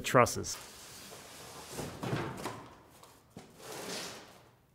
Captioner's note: packaging rustling